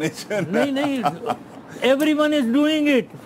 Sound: laughs

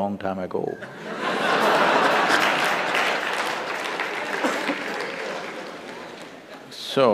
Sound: laughter/Applause

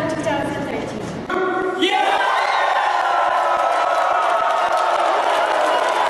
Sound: cheering

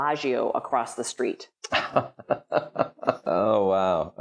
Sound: laughs

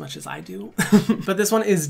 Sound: laughs

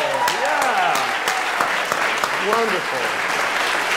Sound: applause

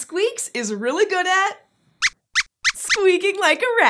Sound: squeaks squeaks

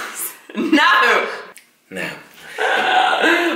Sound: laughs

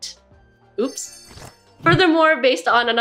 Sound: jingling sound

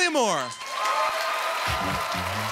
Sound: applause

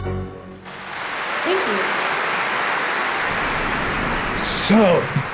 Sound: audience applauding

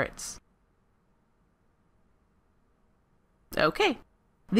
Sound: silence

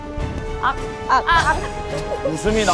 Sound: laugh

